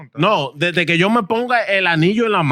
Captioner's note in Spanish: Hablando en idioma extranjero